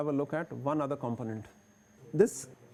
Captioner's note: compressor motors